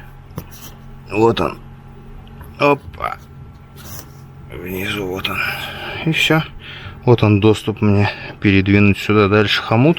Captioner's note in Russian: вздыхает